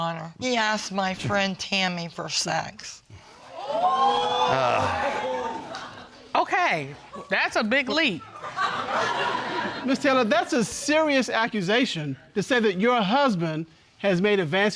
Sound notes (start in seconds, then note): 3.6 audience exclaiming; 8.3 audience laughing